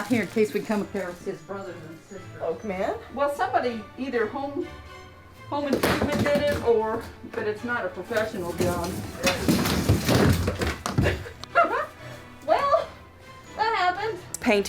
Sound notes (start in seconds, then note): 8.2 materials crashing; 10.9 laughs